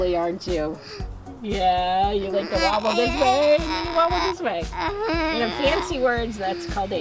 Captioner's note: giggling